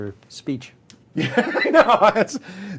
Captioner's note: laughter